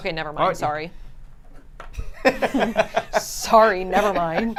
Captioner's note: laughs